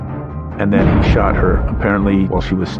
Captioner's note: gunfire blasting